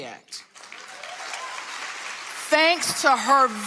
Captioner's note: audience applauding